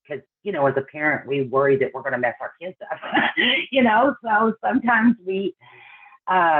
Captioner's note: laughs